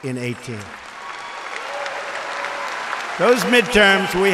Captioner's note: applause